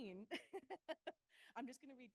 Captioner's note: laughs